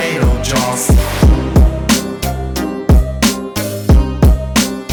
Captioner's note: mic drop